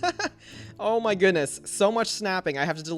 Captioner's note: laughs